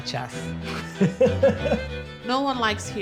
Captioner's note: laughs